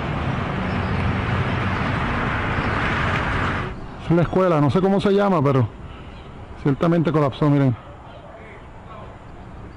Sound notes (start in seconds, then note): 4.2 speaking foreign language